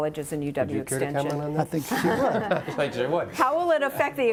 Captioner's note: laughing